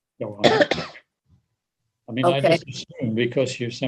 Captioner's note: coughs